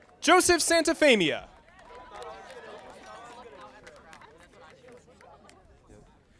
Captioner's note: audience applauding